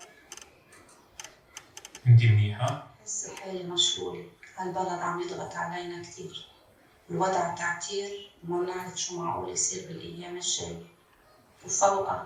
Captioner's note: door shuts